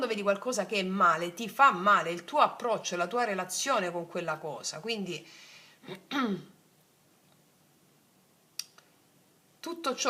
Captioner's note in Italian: schiarire la voce